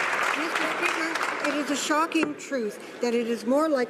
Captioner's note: speaking alternate languages